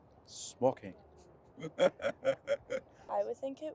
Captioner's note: laughter